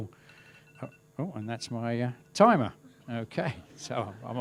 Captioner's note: beeping